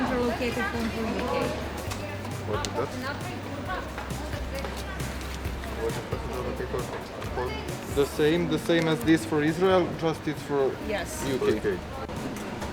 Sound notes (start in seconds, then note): 4.0 foreign language